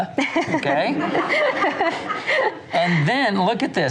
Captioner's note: laughs